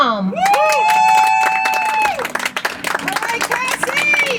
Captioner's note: audience applauds